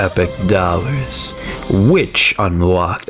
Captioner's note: inhales Oxygen